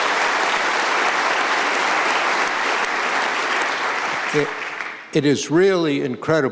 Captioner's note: applause